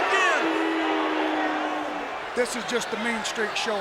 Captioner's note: audience booing